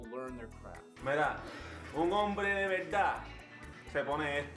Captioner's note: speaking Spanish